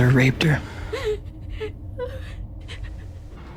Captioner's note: girl whimpering, crying